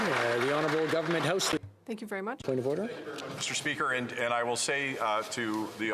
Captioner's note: applause